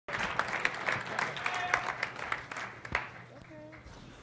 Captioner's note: applause